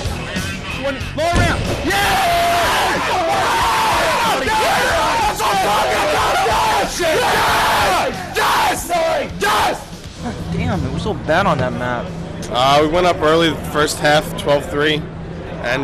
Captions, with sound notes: LOWER DOWN. YEAH! [CHEERING] THAT'S WHAT I'M TALKING ABOUT! YES! YEAH! YES! YES! DAMN, I WAS SO BAD ON THAT MAP. WE WENT UP EARLY IN THE FIRST HALF 12-3,